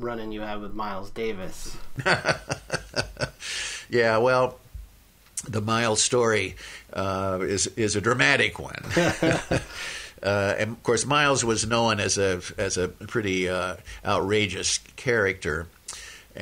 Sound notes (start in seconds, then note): 1.4 laughs